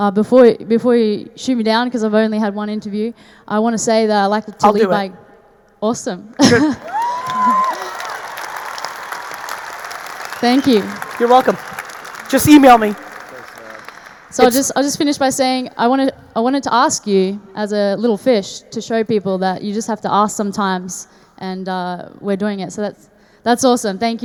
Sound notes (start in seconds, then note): 6.4 laughs; 6.8 audience cheering; 6.8 audience applauding